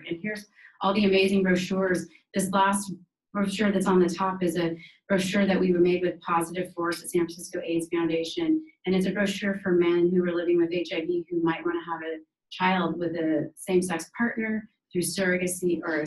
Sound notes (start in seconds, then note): none